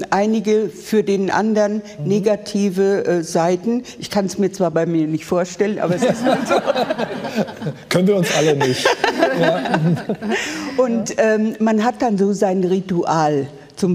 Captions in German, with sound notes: doch einige für den anderen negative Seiten. Ich kann es mir zwar bei mir nicht vorstellen, aber es ist so. (Lachen) Können wir uns alle nicht. Und man hat dann so sein Ritual.